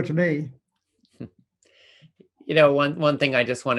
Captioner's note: chuckles